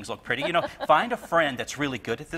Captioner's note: laughs